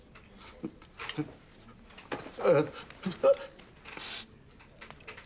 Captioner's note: starting to sneeze